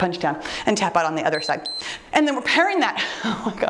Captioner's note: timer beeps